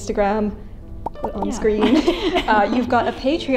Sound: popping; laughs

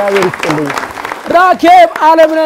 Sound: applause

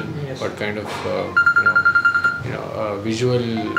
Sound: mobile phone ringing

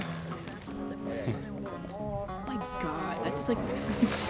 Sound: students chatting indistinctly

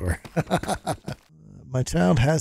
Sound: laughs

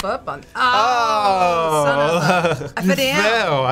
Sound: both groan

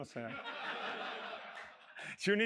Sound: laughter

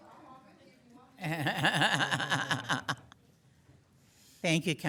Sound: laughs

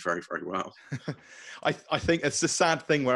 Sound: chuckling

